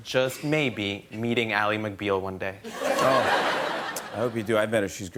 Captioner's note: laughter